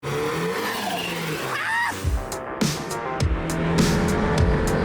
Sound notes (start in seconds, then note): 1.9 engine revving